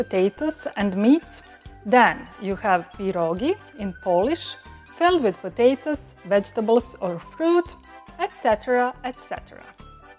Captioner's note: Polish